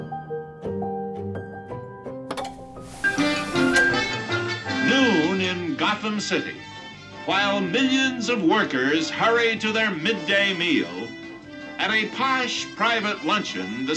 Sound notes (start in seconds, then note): 2.3 T.V. clicks; 2.3 whimsical music